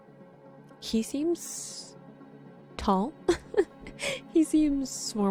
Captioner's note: chuckles